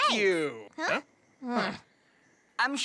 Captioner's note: both grunting